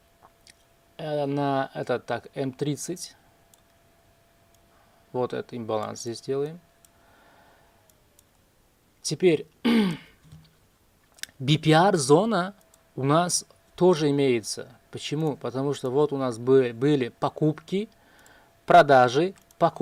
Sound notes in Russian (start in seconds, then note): 9.6 откашливается